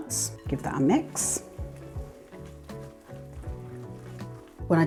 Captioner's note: mixer hum